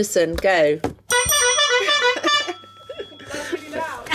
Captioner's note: buzzer sounds